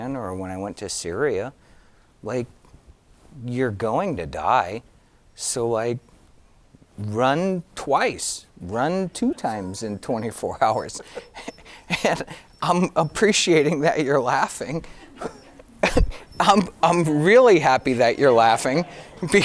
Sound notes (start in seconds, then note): 11.1 giggling; 15.3 laughing